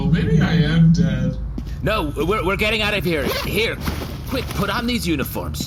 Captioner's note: unzipping bag